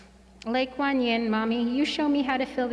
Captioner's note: speaking in foreign language